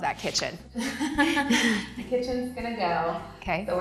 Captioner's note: laughing